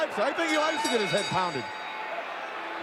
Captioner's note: bell ringing